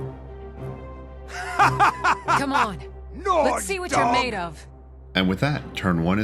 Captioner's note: maniacal laughter